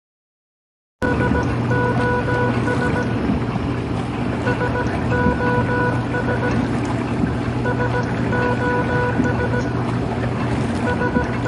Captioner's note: S O S morse code repeating, underwater sounds